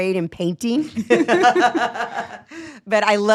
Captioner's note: group laugh